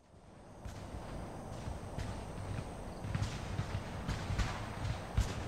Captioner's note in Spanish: Explosiones, disparos